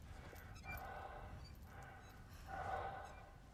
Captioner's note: heavy breathing